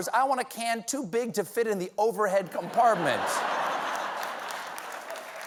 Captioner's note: applause; laughter